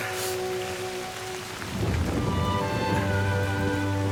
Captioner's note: thunder